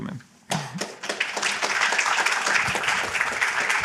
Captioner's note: applause